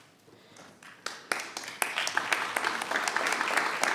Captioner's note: applause